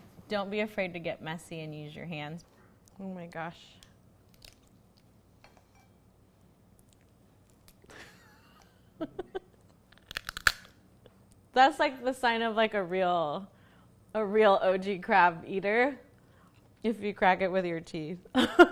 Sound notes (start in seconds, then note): 8.2 laughs; 9.9 shell cracks; 18.4 laughs